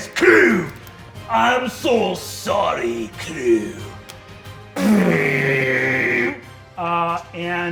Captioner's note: mimics energy thrumming